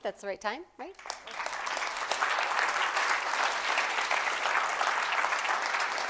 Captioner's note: applause